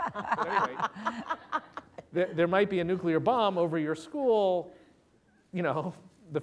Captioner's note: laughter